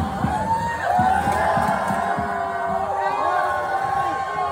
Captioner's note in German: Jubelschreie